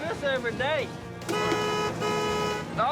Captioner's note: horn honks